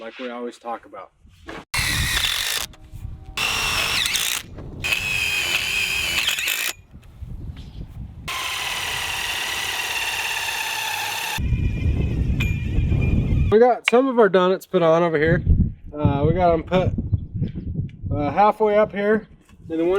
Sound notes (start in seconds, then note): 3.4 drilling